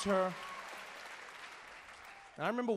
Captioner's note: crowd cheering